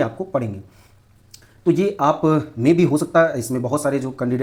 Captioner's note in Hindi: नाक से की जाने वाली आवाज़